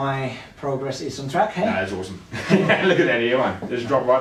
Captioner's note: laughs